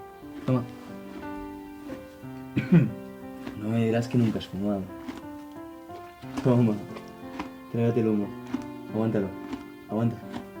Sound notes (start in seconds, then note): 2.5 character coughs